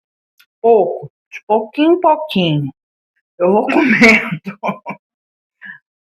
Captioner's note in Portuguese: risadas